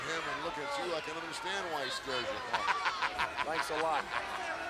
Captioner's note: laughs